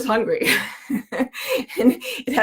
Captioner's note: laughs